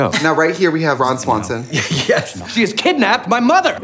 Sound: laughing

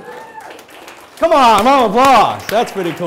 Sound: audience applauding

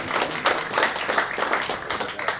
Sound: applause

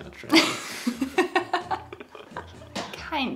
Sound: both laughing

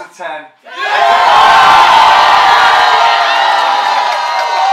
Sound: crowd cheers

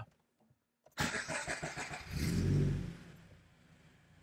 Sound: engine starts

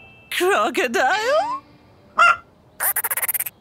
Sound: clucking; laughing

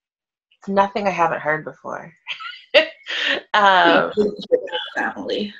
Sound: laughs

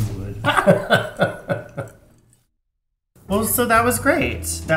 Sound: laughs

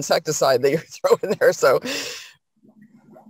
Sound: laughing

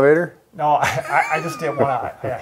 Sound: both chuckles

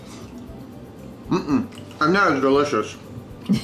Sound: chewing

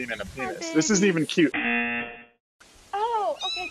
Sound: buzzer rings

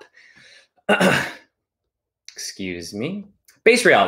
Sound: clears throat

